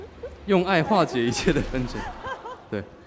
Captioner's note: laughs